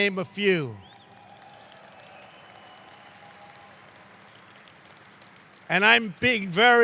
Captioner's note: applause